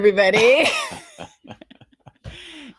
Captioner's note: both laughing